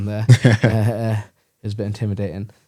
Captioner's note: laughs